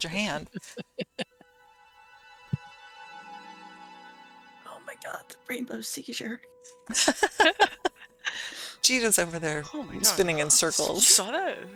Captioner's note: laughter